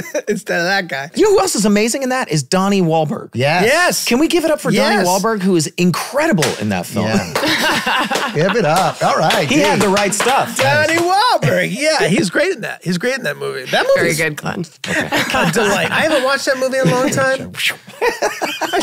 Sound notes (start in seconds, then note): 7.1 all clapping; 14.8 all laughing